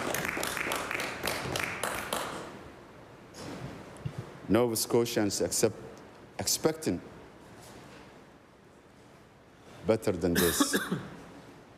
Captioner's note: applause